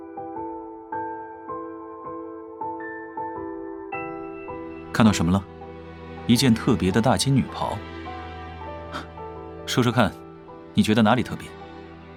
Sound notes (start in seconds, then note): 8.8 scoffs